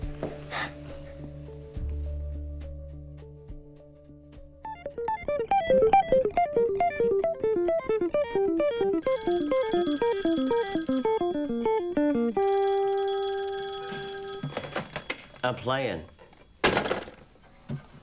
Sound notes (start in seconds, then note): 0.5 sighs; 4.6 rapid guitar music; 8.8 phone rings